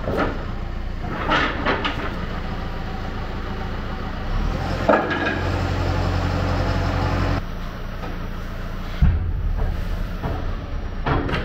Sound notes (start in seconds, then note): 1.0 wood planks clattering; 4.9 engine revving